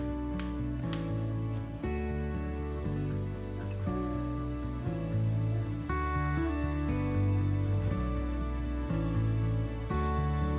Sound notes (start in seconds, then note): 0.2 bill clicks; 2.9 insects chirp; 7.2 soft music continues